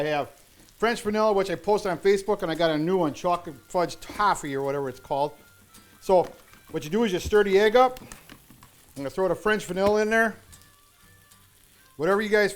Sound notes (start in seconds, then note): none